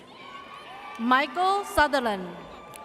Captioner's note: audience cheers